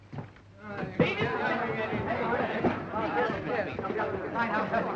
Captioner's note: crowd chattering